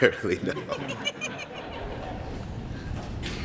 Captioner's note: laughs